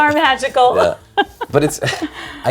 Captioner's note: laughs